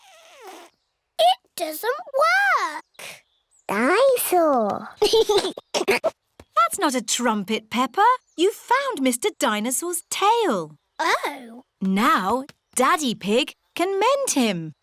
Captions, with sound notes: It doesn't work! Dine-saur! (GIGGLES) That's not a trumpet, Peppa. You've found Mr. Dinosaur's tail. Oh. Now Daddy Pig can mend him.